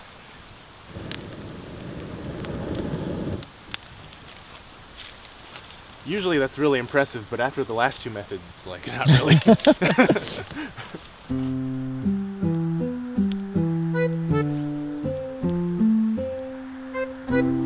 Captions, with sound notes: Usually that's really impressive, but after the last two methods...not really [both laugh] [soft music plays]